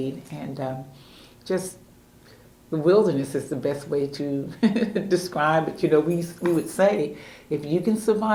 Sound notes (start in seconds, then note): 5.5 laughs